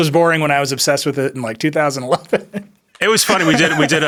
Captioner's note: laughs